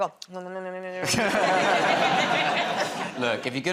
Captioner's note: laughter